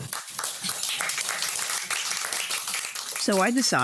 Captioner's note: laughter and applause